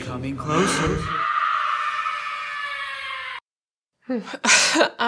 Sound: screaming

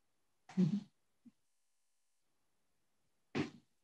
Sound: chuckles

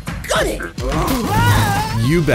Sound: screams

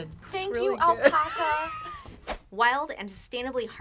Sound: laughs

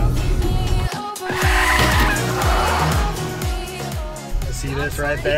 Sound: car squealing

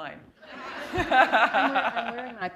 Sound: laughter

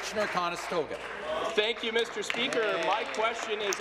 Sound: applause

